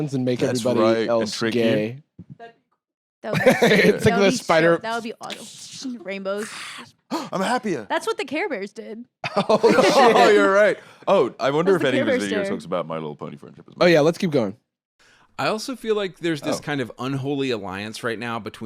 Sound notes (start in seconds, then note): 6.3 gasps; 9.3 laughing